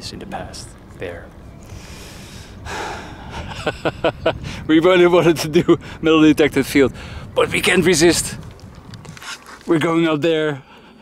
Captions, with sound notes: "in the past there." (laughs) We've only wanted to do metal detect the field but we can't resist. We're going out there.